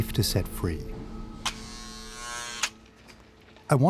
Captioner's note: door buzzes